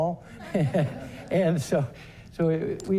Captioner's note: audience laughter